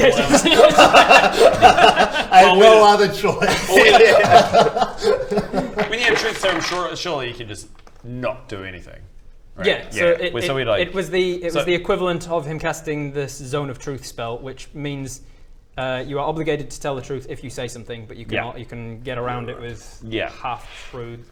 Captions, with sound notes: *LAUGHS* I've no other choice! Well we-- *uneasy giggles* When you have truth serum surely you can just not do anything? Yeah, so it was the it was the equivalent of him casting the zone of truth spell which means you are obligated to tell the truth if you say something but you can get around it with half-truths